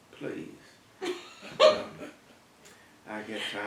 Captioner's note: laugh